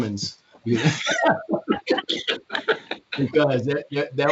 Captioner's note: laughter